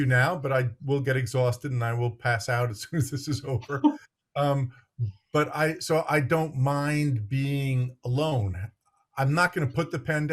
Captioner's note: laughs